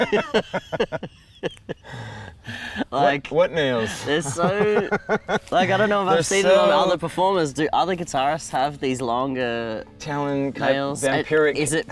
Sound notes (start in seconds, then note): 3.8 both laugh